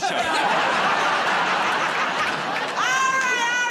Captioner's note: laughter